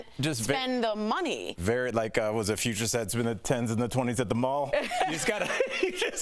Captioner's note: laughter